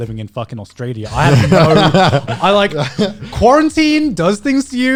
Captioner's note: guys laughing